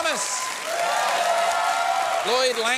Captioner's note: cheering, applause